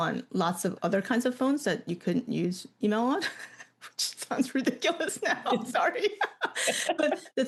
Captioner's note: laughs